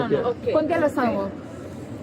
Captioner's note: speaking in a foreign language